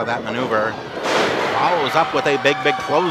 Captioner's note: thudding